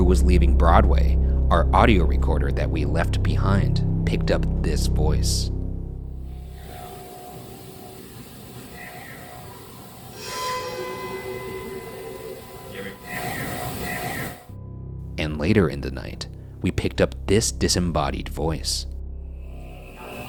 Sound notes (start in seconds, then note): 0.0 tense music; 8.9 voice whispers; 10.6 dark music; 13.0 voice whispering